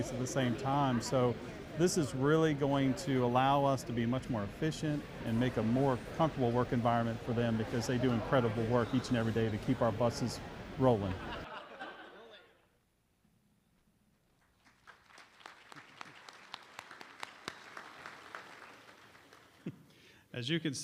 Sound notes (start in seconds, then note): 11.0 laughter; 14.3 applause